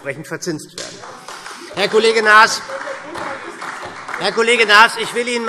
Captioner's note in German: Beifall SPD - Zurufe Freie Demokraten